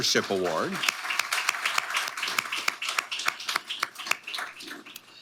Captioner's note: audience applauding